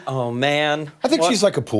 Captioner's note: laughter